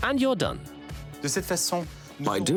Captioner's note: speaking foreign language